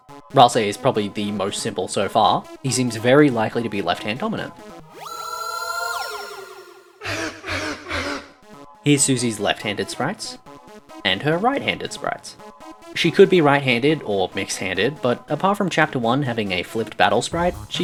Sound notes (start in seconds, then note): 4.9 Sound of Rouxls Kaard entering; 7.0 Susie laughing